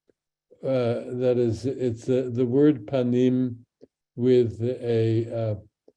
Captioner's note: speaks in Hebrew